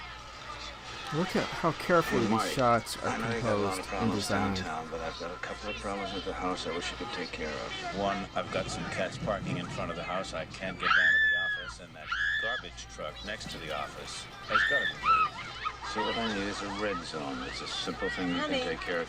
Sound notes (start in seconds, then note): 12.1 we hear a girl screaming